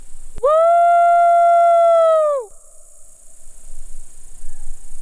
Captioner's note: person shouting